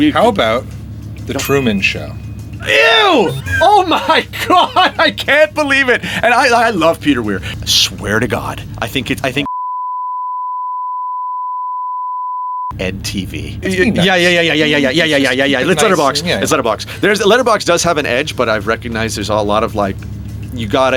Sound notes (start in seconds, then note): 9.5 beep